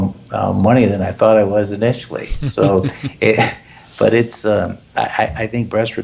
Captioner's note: laugh